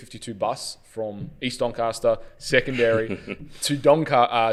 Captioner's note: chuckles